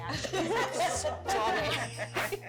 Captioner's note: laughter